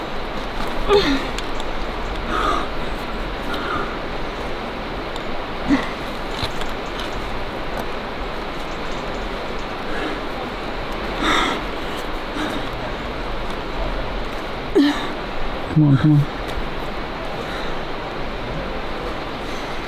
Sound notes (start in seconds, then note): 0.8 grunts